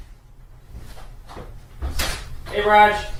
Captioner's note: door clicks open